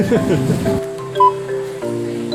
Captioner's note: laughter